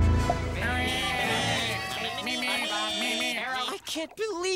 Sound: cheering, meeping

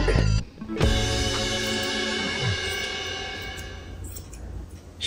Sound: scissors snipping

